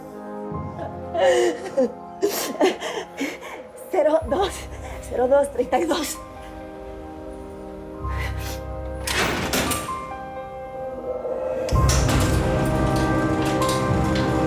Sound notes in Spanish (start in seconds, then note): 0.8 Sollozos; 9.0 Sonido al abrirse la puerta